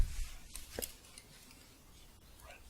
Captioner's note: gentle jingling